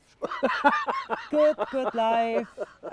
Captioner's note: laughter